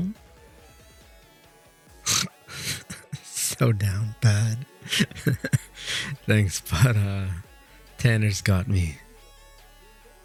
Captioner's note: he snorts and shakes his head